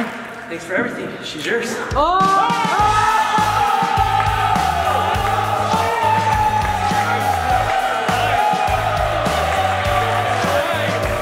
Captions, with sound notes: Hey man, thanks for everything. This is yours. (cheering) (upbeat music)